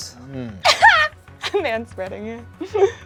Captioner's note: laughs